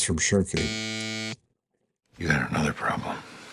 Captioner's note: buzzer buzzes